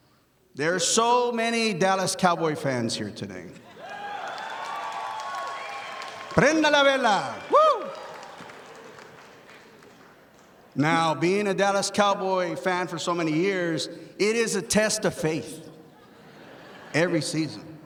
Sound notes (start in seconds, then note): 3.7 audience applauding; 6.4 speaks in foreign language